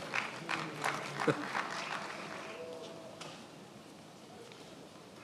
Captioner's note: attendees applauding